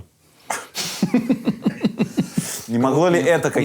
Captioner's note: both laugh